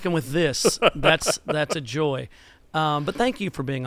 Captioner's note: laughter